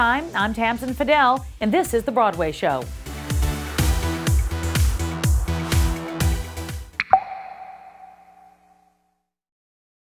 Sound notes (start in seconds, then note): 3.7 upbeat music; 7.0 picture popping